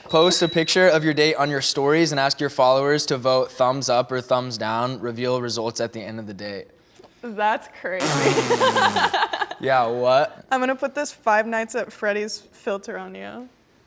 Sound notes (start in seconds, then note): 8.0 blows raspberry; 8.1 laughs